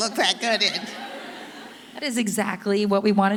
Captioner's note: audience laughing